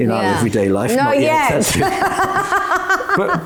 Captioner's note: laughs